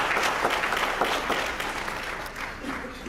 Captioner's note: applause